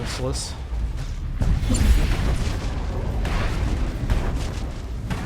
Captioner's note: explosion